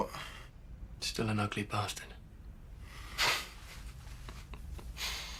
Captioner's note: laughing